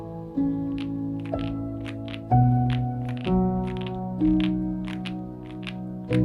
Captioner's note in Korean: 안정적인 타건음